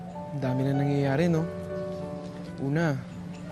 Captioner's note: none